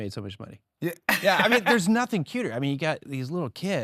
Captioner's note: laughing